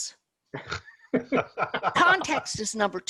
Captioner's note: laughs